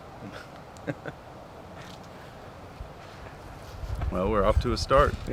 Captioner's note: chuckling